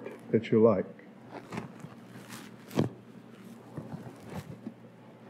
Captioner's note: grabbing noises intensify